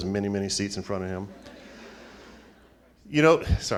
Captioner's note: laughing